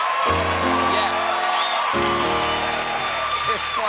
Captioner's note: cheers and applause; piano riff